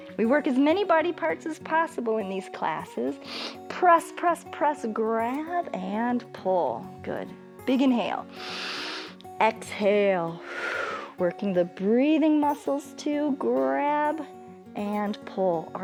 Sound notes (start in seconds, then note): 8.3 exhales; 8.3 inhales